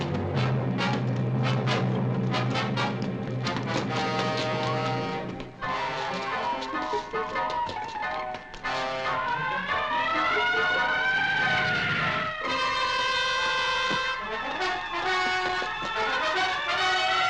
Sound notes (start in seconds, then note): 9.1 siren wailing